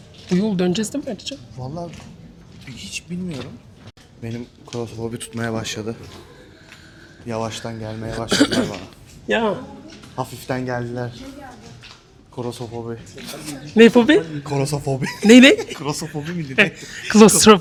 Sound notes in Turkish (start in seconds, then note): 8.2 boğazını temizler; 15.0 kahkaha